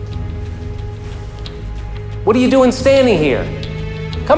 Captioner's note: sighing